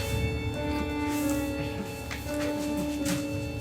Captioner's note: bag thuds; bag rustles